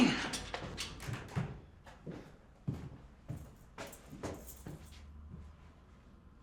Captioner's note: footsteps